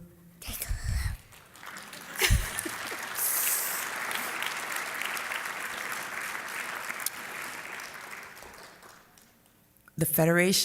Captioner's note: applause